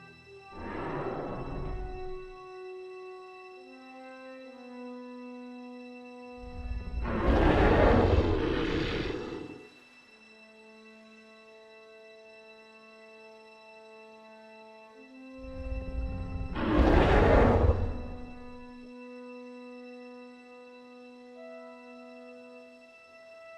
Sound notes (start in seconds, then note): 0.5 dinosaur growl; 6.5 dinosaur roar; 15.6 dinosaur roar